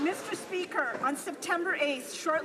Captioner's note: some Applause